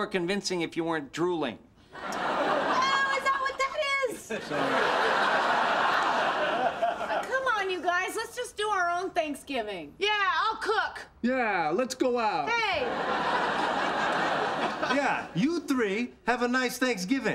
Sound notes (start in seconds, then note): 1.9 audience laughter; 5.7 audience laughter; 12.7 audience laughter